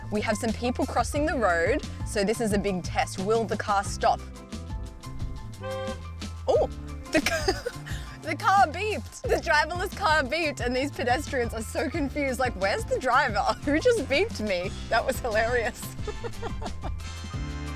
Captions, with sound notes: We have some people crossing the road. So this is a big test. Will the car stop? (car horn beeping) Oh the car beeped. The driverless car beep. And these pedestrians are so confused, like, where's the driver? Who just beeped me? That was hilarious. (laughs)